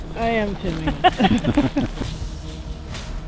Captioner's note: laughs